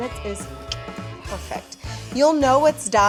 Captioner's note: clicks tongue